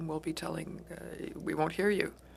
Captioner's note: speaking French